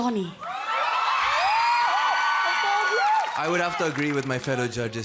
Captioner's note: audience squealing